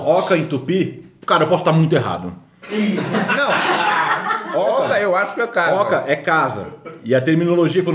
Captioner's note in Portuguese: risos